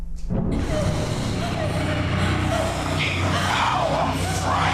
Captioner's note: creature growls